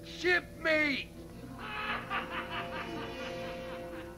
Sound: laughing

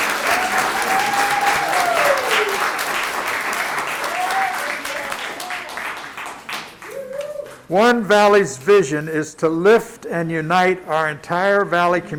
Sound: applause

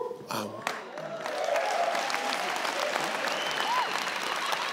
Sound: audience claps

